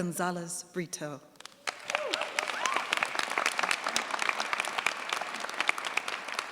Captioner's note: cheers, applause